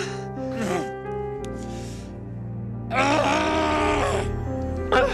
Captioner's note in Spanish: SOUND Hombre gime en agonía